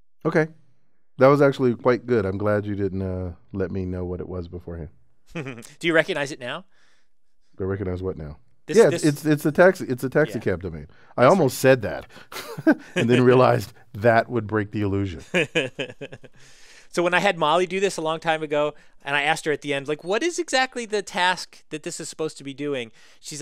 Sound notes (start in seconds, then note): 5.3 laugh; 12.3 laugh; 15.2 laughter